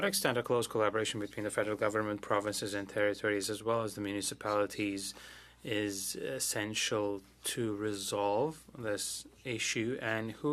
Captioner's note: speaking French